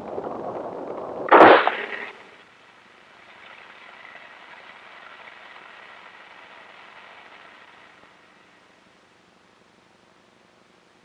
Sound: sound of Engines Firing

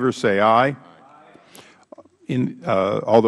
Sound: chorus of ayes

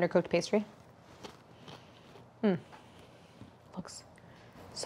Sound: tart crunching

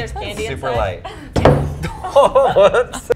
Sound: cable thuds; laughs

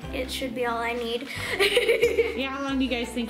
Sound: laughs

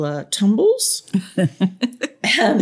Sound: laughter

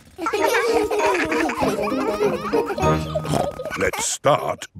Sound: children laughing; snorts

